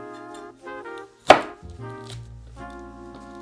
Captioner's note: knife cutting